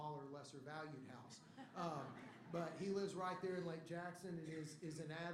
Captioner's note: laughter